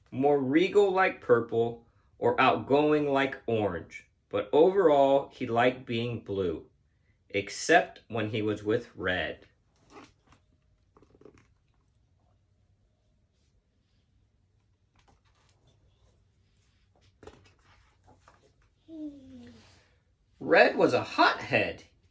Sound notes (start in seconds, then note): 9.8 book squeaking; 16.6 page turning; 18.9 child sighing